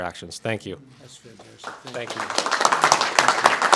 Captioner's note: applause